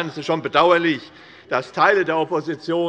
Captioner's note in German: none